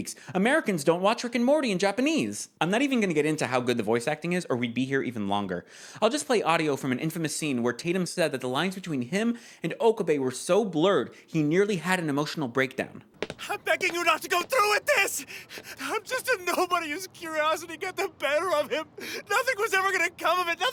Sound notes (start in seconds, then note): 13.3 crying